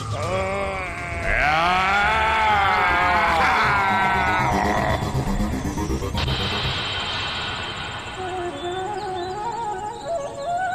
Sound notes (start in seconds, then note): 0.4 grunts; 7.8 flute playing